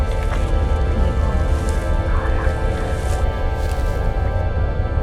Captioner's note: space sounds